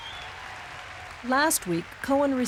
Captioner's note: audience laughs and cheers